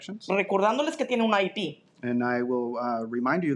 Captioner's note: speaking in Spanish